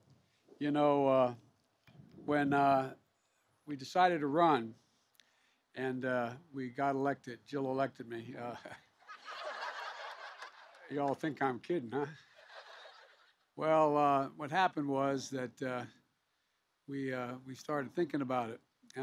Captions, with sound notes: You know, when we decided to run and we got elected -- Jill elected me -- (laughter) -- you all think I'm kidding, huh? (Laughter.) Well, what happened was that we started thinking about it,